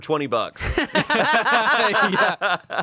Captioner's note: everyone laughs